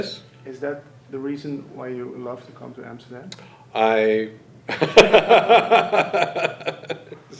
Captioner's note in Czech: směje se